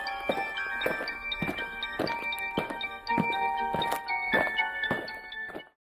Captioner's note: eerie music; aliens marching